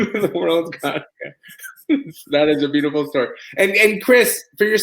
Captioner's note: laugh